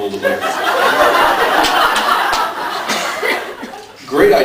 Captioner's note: laughs